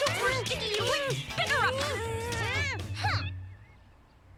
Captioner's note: pair groaning; Lizbeth humphs